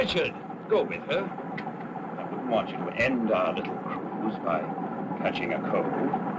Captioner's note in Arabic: none